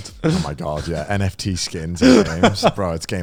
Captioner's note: laughs